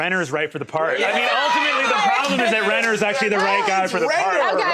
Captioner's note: uproar